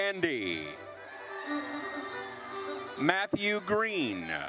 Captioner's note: attendees cheering